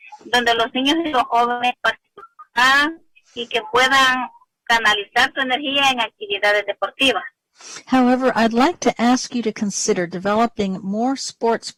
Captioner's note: speaking spanish